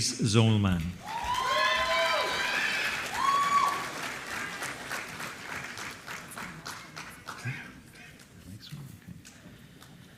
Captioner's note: applause